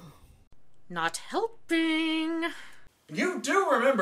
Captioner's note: through gritted teeth